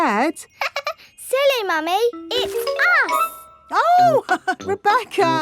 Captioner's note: laughs; chuckles